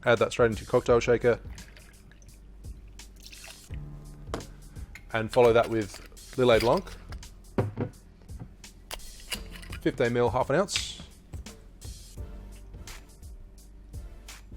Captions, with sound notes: Add that straight into your cocktail shaker. (rum pours) And follow that with Lillet Blanc. 15 ml, 1/2 an ounce.